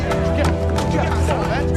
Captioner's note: indistinct chattering